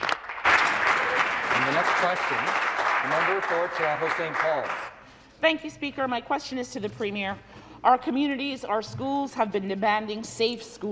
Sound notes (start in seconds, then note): 3.1 applause